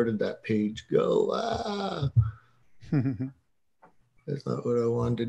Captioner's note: laughing